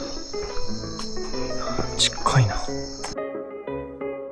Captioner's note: snap